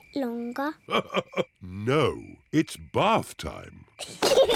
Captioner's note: laughs; peppa and george giggle